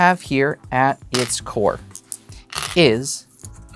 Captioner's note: stones rattling